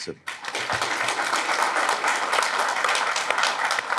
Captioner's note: audience clapping